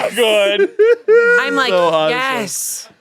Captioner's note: everyone laughs